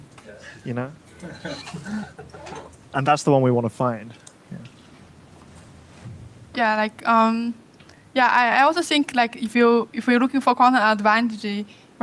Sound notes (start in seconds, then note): 1.2 laughter